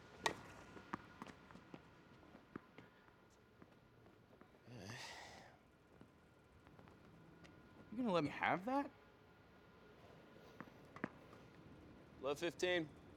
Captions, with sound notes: (ball bouncing) (Phillip sighing) - You gonna let me have that? (ball bouncing) - Love, 15.